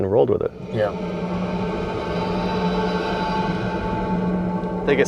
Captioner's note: ominous sound